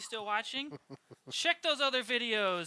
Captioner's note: chuckles